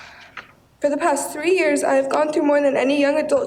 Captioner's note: breathes deeply